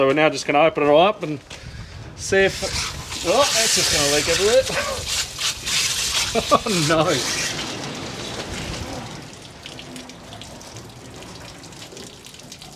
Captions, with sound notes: So, we're now just gonna open it all up and see if... Oh, that's just gonna leak everywhere. (water running) Oh no.